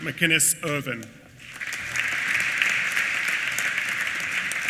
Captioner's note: applause